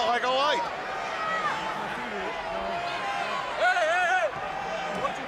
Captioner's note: crowd chatter